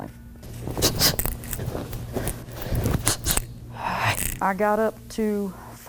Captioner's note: breathing sharply